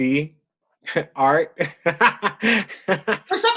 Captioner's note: laughs